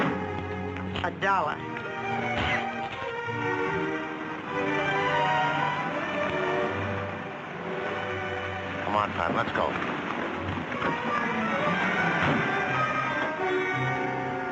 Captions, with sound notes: A dollar! (spitting) Come on, Pat, let's go. (dramatic music)